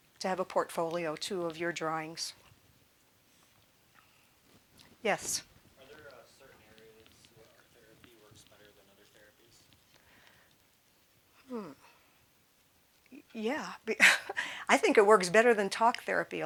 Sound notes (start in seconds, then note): 13.9 chuckling